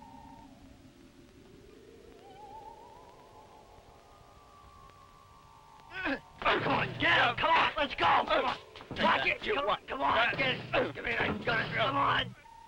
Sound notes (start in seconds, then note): 6.1 gun fires